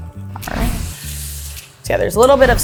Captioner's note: instructions whooshing; pan sizzling